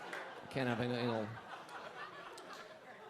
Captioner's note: audience laughing